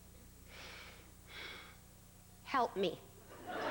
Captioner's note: slow exhale